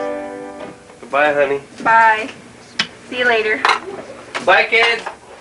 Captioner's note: harpsichord playing; kiss